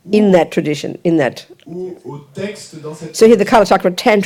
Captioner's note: audience member speaks in French